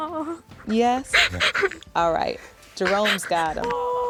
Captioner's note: sobbing